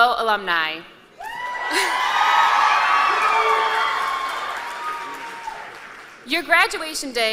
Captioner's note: cheers and applause